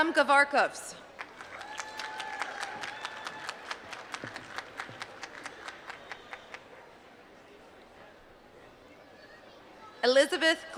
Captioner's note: applause